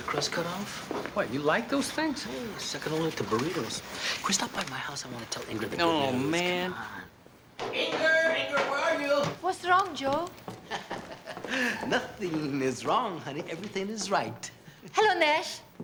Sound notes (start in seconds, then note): 10.6 laughing